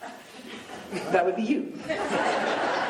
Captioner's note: laughing